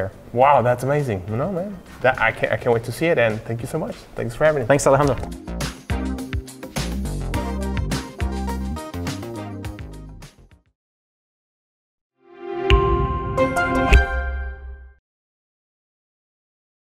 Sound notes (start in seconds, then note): 5.9 dynamic music; 12.6 logo chiming